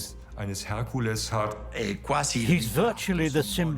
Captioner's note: in Italian